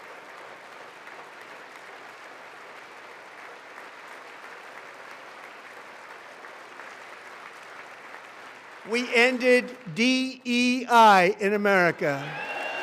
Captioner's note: applause